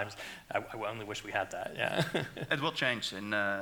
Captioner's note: laughs